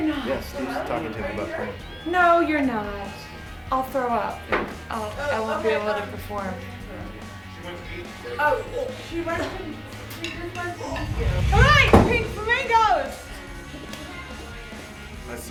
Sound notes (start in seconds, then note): 8.2 wretches